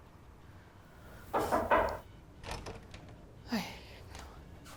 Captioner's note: hand rapping